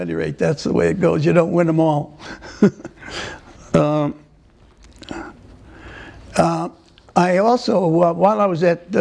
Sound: laughter; laughter

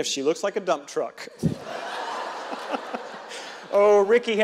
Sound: audience and reverend laughing

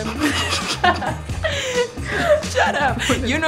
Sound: laughter

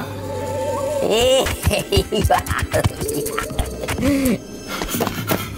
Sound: McKraken laughs

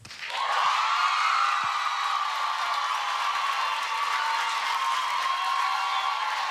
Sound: applause

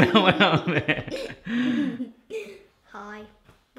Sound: laughter

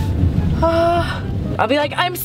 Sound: sorrowful sigh

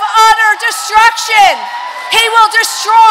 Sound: congregation cheering

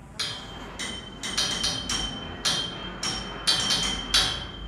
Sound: clanking

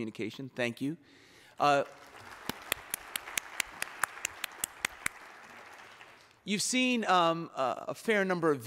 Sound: applause

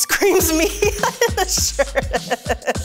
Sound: laughs

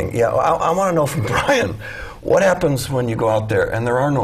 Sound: chuckle

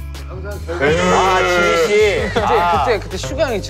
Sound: cried

